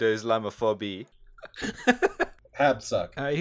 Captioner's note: laughter